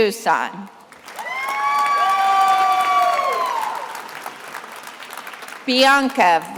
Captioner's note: attendees applauding and cheering